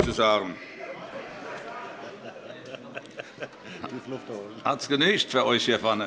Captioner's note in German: Heiterkeit